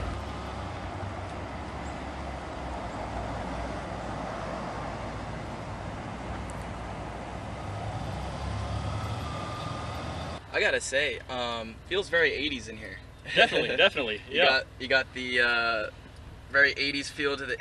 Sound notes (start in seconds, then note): 13.2 chuckling